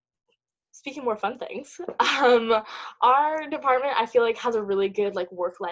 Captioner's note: laugh